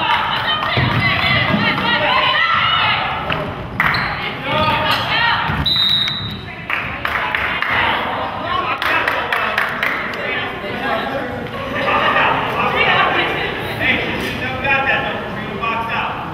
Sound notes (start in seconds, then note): 5.6 whistle blows